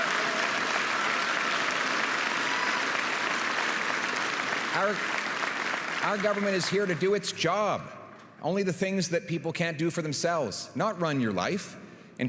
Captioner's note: applause